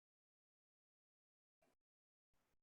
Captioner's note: none